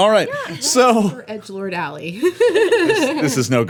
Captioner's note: laughing